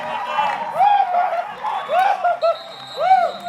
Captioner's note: cheering; whistle blowing